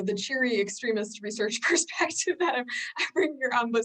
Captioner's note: chuckles